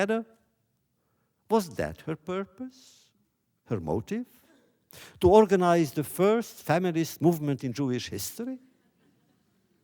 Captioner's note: laughter